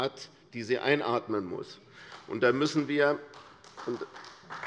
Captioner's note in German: Beifall bei der CDU